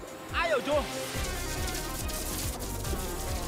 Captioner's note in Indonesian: suara kertak listrik